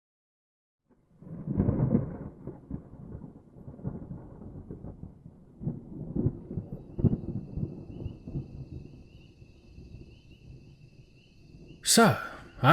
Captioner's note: SFX thunder and night-time nature sounds